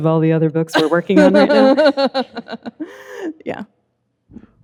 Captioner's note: laughing